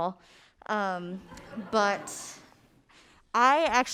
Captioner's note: audience laughing